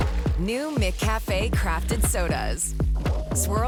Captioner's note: applause